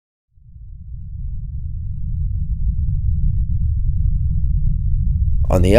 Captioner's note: earthquake noise